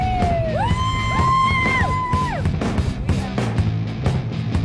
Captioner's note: cheering